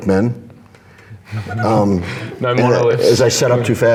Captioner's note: laughs